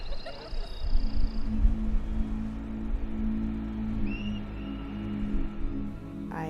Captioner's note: laughter and indistinct chatter; pensive vocalization